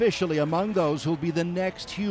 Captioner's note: cheers and Applause